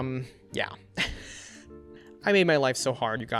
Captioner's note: laughs